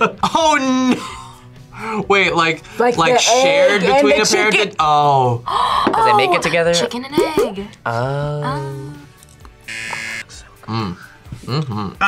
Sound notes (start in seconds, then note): 1.0 laughs; 5.5 gasps; 9.6 buzzer